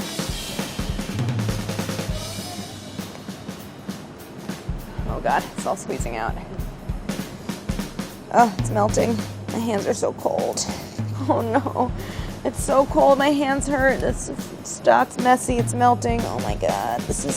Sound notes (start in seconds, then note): 0.2 upbeat percussion music; 10.7 sighs